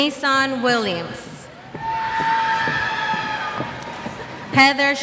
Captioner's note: cheers